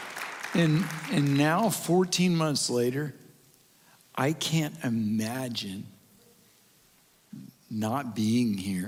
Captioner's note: applause And Cheering